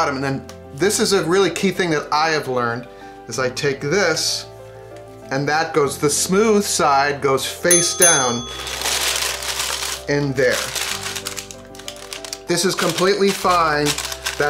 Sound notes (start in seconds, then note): 7.7 dinging; 8.6 paper crinkling; 13.6 paper crinkling